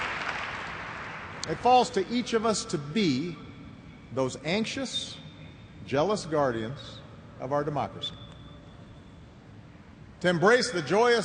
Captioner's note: cheers and applause